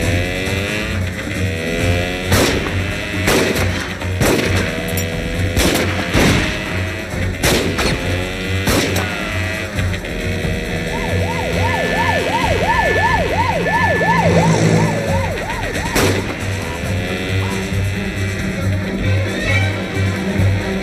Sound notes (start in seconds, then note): 2.0 engine revving; 2.0 guns firing; 10.6 engine revving; 10.7 siren blaring; 15.8 gun firing; 17.3 suspenseful music